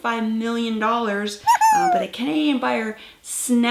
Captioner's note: exclamation